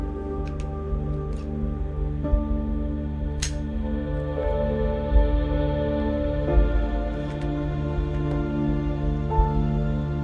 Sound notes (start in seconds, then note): 3.4 gun clicks; 4.1 somber music